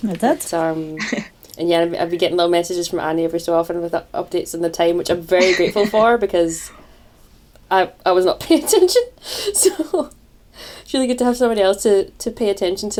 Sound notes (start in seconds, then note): 9.1 laughs